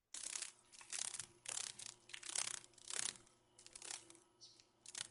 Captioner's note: sounds of a dragon fly